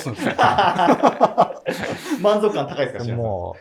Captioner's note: laughing